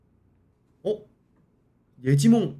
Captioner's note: startled